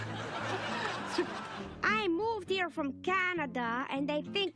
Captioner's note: canned laughter